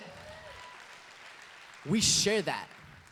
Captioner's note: applause